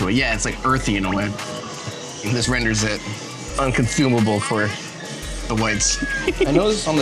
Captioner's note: laughs